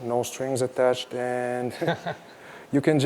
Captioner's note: laughter